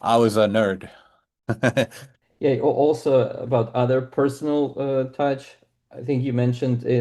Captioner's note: laughs